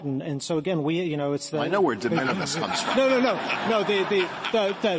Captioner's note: laughter